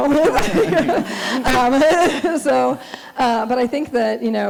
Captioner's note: laughing